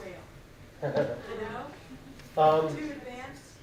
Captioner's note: laughs